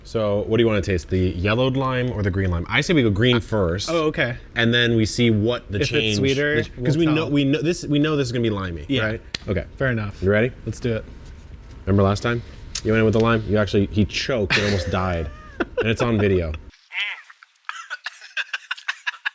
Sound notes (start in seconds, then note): 14.4 laughs; 17.6 retches and coughs; 17.6 laughs